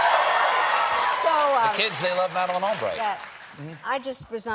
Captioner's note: cheers and applause